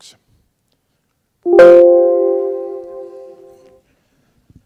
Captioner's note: computer notification tone